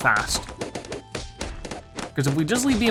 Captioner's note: balloons popping